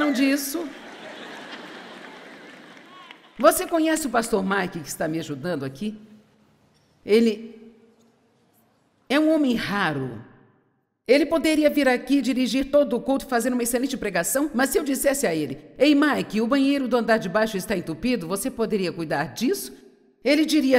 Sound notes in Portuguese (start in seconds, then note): 0.0 audiência ri